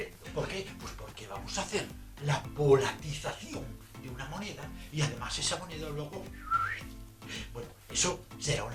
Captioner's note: whistle